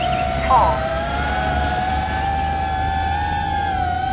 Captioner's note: applause